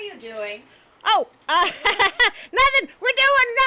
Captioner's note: laughs nervously